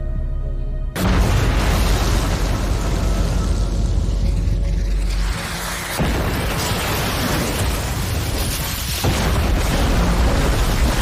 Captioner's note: bombs exploding